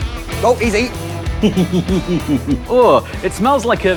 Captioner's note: giggles